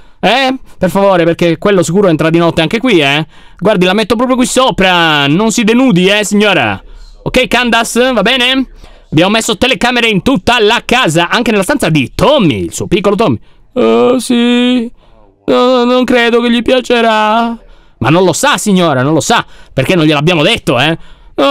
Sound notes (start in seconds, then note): 13.8 dull tone